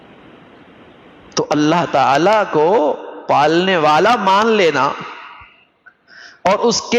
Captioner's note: gasp